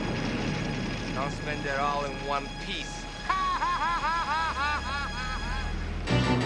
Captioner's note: laughing